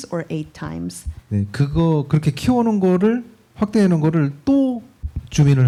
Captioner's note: speaking korean